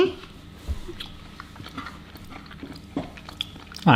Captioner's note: chewing